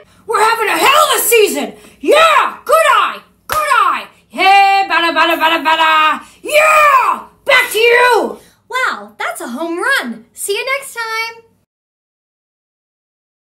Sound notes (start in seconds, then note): 3.4 clap